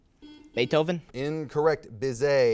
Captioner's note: buzzer beeps